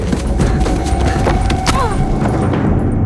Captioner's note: groans